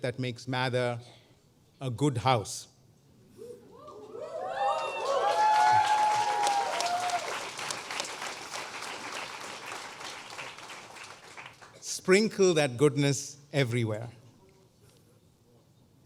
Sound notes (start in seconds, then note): 4.5 applause